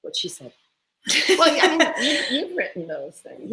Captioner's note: laugh